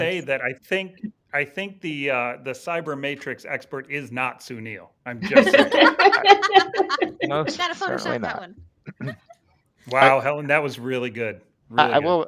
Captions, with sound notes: - I will say that I think the Cyber Matrix expert is not Sounil, I'm just saying. (all laughing) - No, it's certainly not. - Gotta Photoshop that one. - Wow, Helen, that was really good, really good.